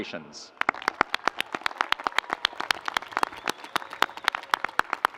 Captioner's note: audience applauds